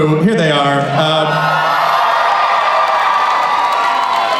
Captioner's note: cheering